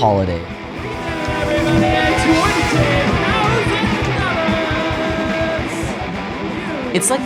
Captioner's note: shouting